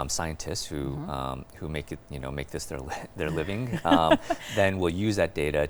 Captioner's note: laughs